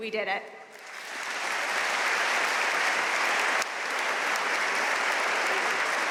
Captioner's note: audience cheering and applauding